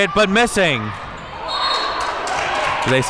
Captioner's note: whistle blows